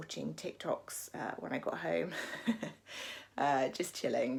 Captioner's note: laughs